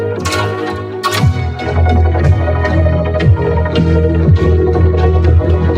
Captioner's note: wooden boards creaking